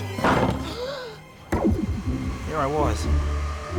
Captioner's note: gasps